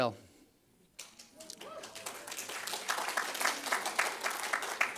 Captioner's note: audience applauds